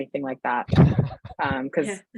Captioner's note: laughs